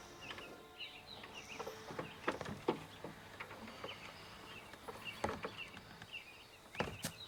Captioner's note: curious music; birds chirping